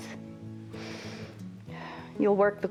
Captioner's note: inhales and exhales